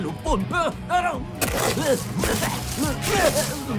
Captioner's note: groans, coughing